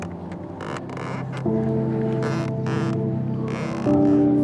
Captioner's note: boat squeaking